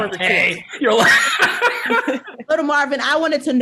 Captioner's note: panelists laugh